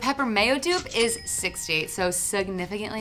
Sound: till rings

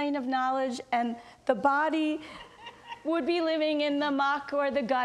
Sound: audience laughs

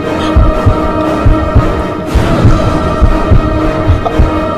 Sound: heart beating

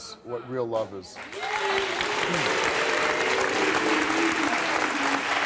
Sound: audience applauds

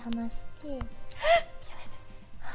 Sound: gasp

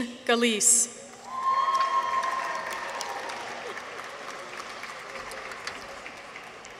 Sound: people cheer; audience applauds

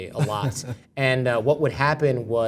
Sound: laugh

